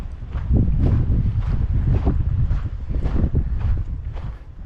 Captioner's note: wind blowing